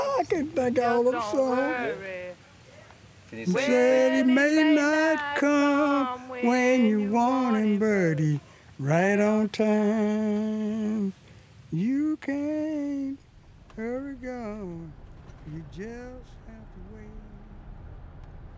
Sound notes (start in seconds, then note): 3.1 singing along; 11.6 recording stops